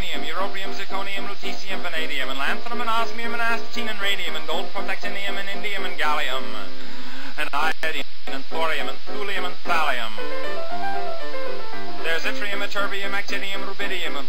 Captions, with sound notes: europium, zirconium, lutetium, vanadium, and lanthanum, and osmium, astatine, and radium, and gold, protactinium, and indium, and gallium, [deep breath] and iodine, and thorium, and thulium and thallium. [piano flourish] There's yttrium, ytterbium, actinium, rubidium,